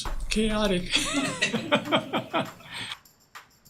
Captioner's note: laughter